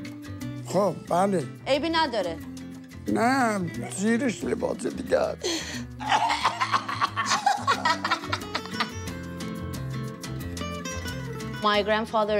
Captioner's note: speaking foreign language